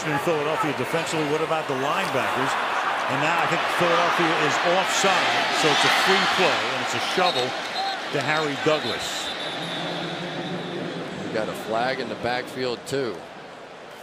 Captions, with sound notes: Big question in Philadelphia defensively, what about the linebackers? And now, I think Philadelphia is offsides. So it's a free flow. And it's a shovel to Harry Douglas. [whistle] [pa announcement] You got a flag in the backfield too.